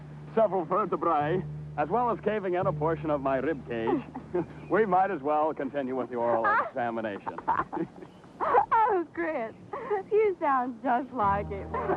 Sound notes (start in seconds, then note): 7.8 laughing